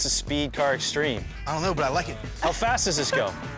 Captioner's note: laughs